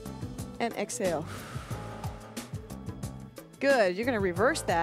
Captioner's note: breath hisses